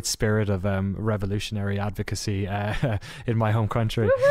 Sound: laughs

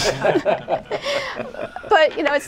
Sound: laughter

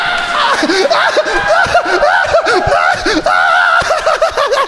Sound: screaming

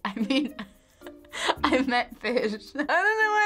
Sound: laughing

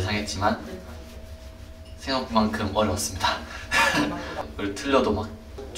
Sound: scratching

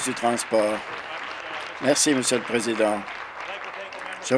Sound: applause

